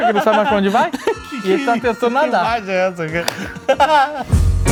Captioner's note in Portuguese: risos